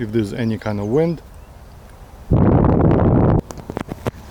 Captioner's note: wind noise